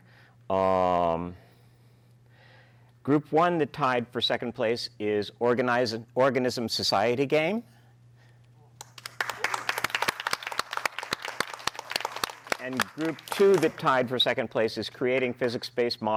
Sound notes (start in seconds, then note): 8.8 applause